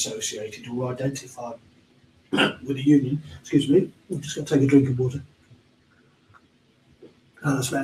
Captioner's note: coughs